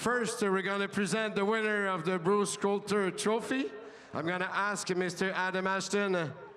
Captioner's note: speaking French